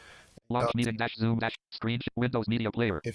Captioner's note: computer Voice